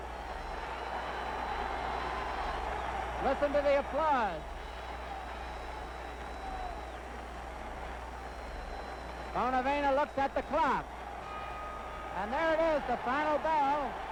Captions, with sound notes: Listen to the applause. (crowd cheers) Bonavena looks at the clock (bell rings) and there it is the final bell